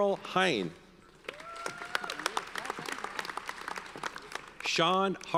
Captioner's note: audience cheers and applauds